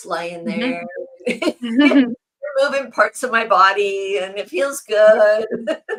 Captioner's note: laughs